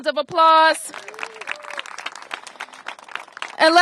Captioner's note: applause